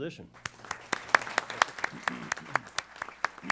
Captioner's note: applause